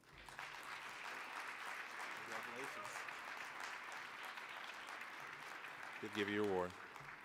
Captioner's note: applause